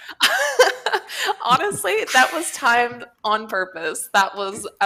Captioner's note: laughs